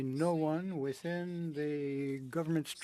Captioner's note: speaking French